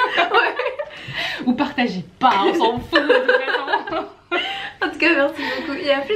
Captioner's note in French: rires; rires